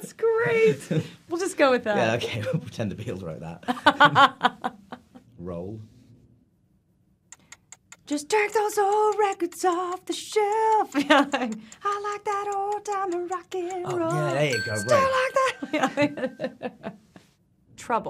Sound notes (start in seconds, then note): 0.0 laughing; 3.7 Evan laughing; 6.5 timer ticking; 13.6 timer dinging